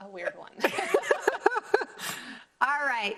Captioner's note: both laughing